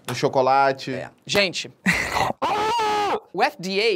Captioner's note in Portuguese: grita